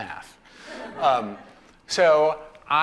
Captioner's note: laughter